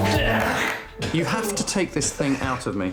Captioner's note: retching